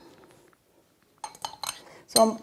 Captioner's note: brush clanking